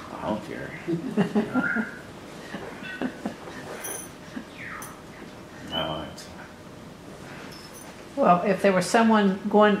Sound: laughter

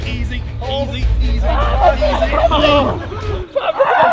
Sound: men laughing

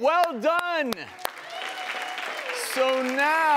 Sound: audience clapping

